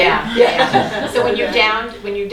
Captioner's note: laughing